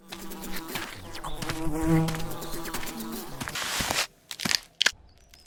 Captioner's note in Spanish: Sonido de moscas, luego un crujido